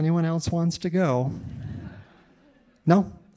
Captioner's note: audience laughing